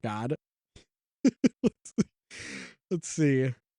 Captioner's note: giggles